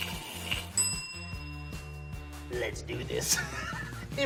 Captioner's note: upbeat music; bell dings; laughs